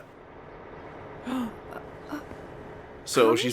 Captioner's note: gasps